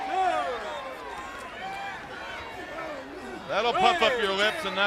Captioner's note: crowd cheering